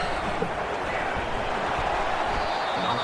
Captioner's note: crowd Noises